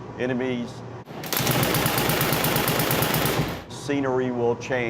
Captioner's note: gunfire